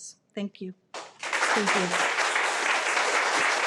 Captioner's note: audience applauding